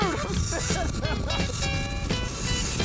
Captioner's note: laughter